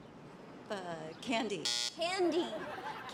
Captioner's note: buzzer